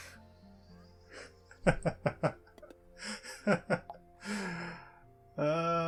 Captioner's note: laughter